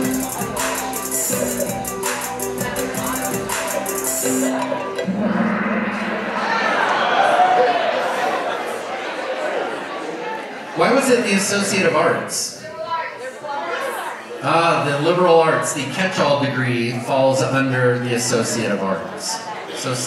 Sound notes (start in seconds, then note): 4.4 gong bangs